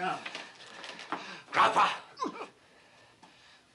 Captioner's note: john groaning